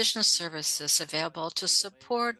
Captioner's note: speaking French